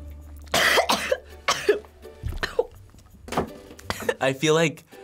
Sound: coughs

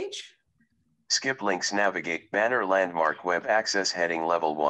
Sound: recorded voice

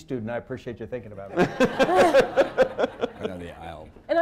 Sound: laughter

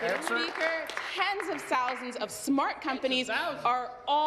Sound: applause

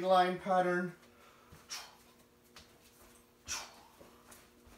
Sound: swirling noises

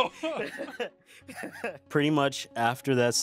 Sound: laughs

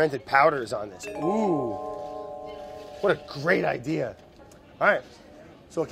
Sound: bright idea dinging noise

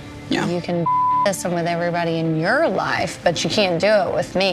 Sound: beep

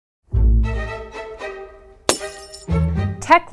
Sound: glass breaking

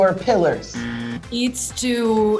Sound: buzzer

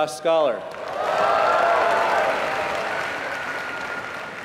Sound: applause

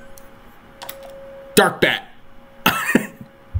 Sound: laughing

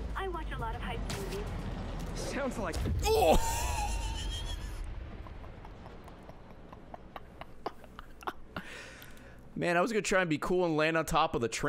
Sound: laughs

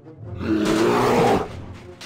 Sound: rawr-bash

